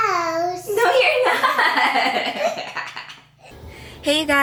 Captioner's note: laughs